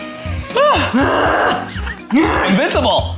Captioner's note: grunts